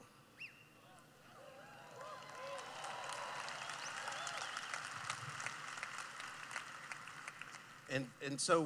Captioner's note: cheering